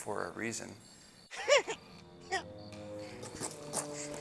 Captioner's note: deer man noises